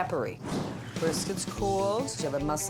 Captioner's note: logo whooshes